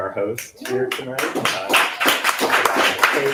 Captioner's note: applause